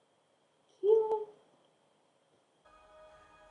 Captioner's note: tiny claps